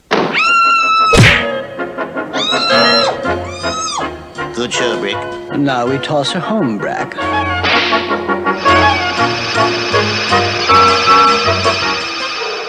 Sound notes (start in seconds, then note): 0.3 Sweet Polly Screams; 1.1 smack!; 2.4 Sweet Polly Screams